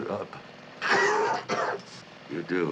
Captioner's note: coughing